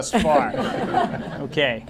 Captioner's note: laughter